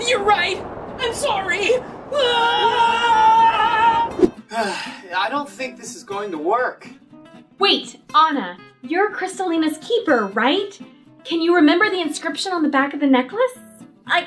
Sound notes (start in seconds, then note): 1.0 screams